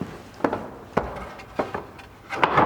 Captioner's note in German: Pochende Laute